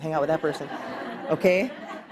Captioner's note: class laughing